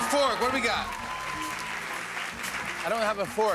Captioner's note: cheers and applause